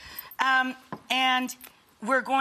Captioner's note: whisk thuds